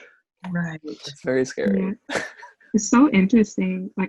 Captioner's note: laughs